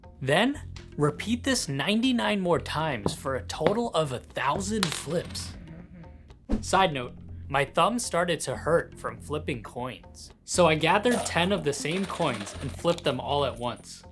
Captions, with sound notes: Then repeat this 99 more times for a total of 1000 flips. [Snoring] Side note, my thumb started to hurt from flipping coins, so I gathered 10 of the same coins and flipped them all at once.